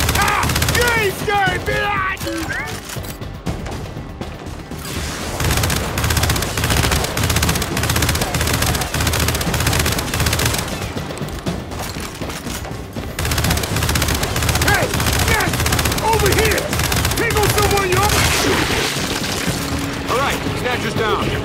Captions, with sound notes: Ah! You ain't scared, bitches! [gunshots] [gunshots] [gunshots] [gunshots] [gunshots] [gunshots] [gunshots] Hey! Yes! Over here! Pickle someone, you're all right! All right, snatcher's down.